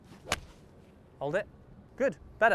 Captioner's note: golf swing swoosh